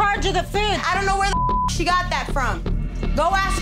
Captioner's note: beep